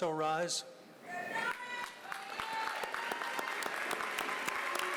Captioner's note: applause